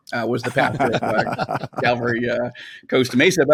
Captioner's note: laugh